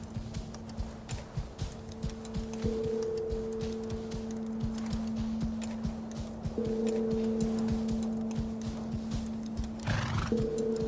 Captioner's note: hooves clopping